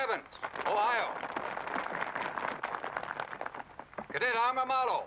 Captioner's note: crowd applause